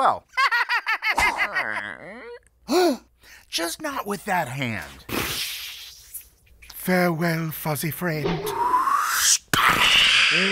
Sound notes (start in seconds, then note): 0.5 Weasel laughs; 2.6 gasps; 9.5 magical explosion; 9.7 slow Motion Scream